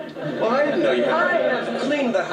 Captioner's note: laughter